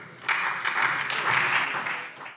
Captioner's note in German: Beifall SPD